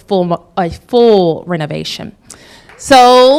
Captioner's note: applause